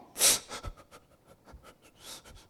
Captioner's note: sniffling